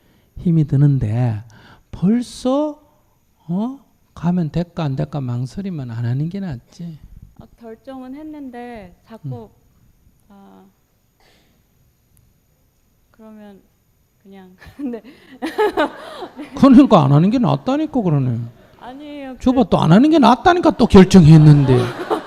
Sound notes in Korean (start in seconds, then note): 14.6 질문자 웃음